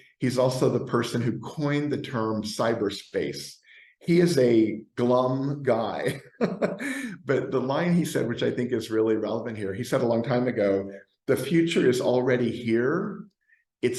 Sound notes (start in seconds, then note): 6.0 laughs